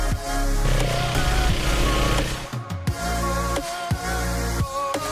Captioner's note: engine humming